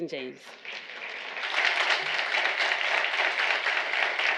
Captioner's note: audience applauding